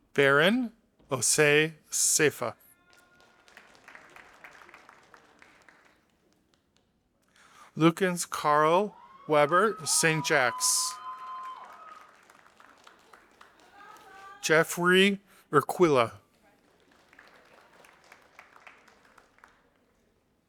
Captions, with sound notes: Baron Osay Sefa. (audience applauding) Lukans Carl Weber St. Jacks. (audience applauding) Jeffrey Requila. (audience applauding)